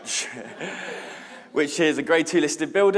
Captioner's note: laughs; audience laughing